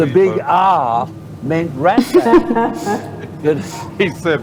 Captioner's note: laughs